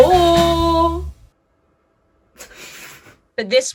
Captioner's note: laughs